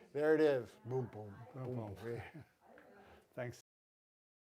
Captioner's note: mimicking heartbeat